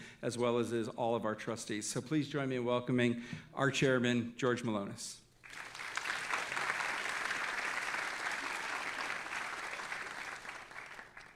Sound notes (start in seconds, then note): 5.4 all applauding